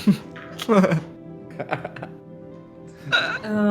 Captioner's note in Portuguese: risos